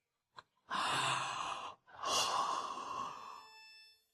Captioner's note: thở dài